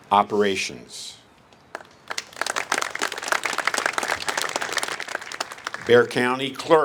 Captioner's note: applase